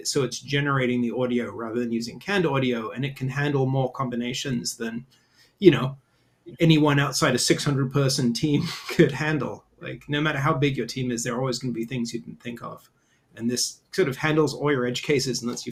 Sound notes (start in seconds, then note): 8.6 chuckles